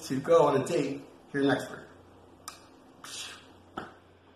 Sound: tea cup swoosh sound

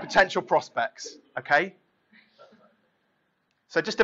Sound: laughing

